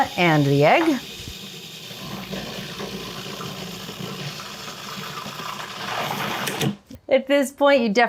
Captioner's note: food processor whirring